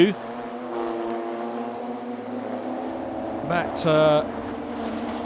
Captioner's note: car engines revving